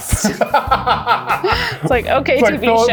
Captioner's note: laugh